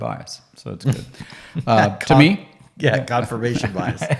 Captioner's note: both laughing